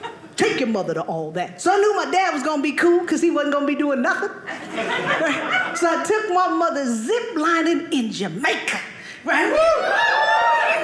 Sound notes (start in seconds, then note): 4.5 audience laughing